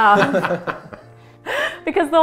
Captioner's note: laughter